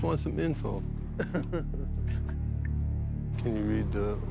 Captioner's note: laughing